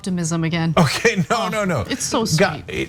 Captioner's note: laugh